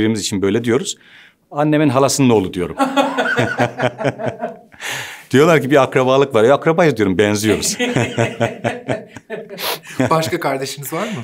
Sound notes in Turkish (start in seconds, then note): 2.7 Gülüyorlar; 7.4 Gülüyorlar